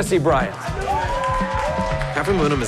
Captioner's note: crowd cheers